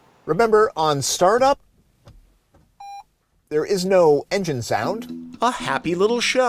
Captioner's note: beep